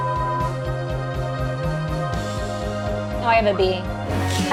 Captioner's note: beeping; dramatic music